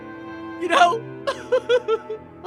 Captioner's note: crying